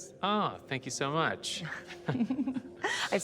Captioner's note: both chuckle